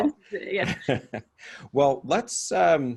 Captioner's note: laughing; laughs